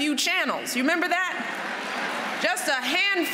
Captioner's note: laughter